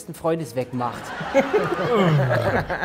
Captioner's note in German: Lachen